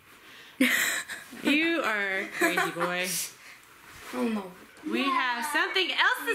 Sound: laughing

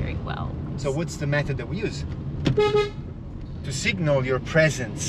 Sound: car honking

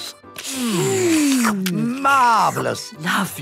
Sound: slurping

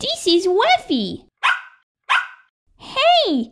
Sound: bark! Bark!

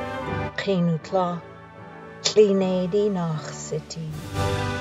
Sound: non-english speech

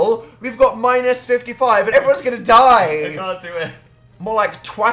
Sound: laughing

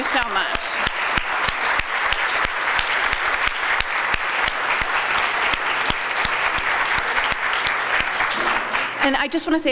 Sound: applause

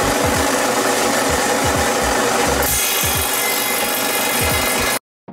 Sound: stone cutting sound

